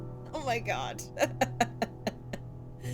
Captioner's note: laughter